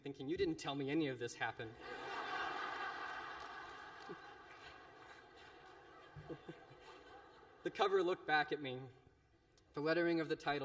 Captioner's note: laughter